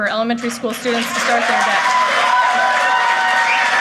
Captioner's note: applause